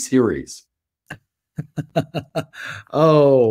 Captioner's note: laughs